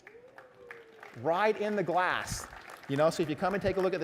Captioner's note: applause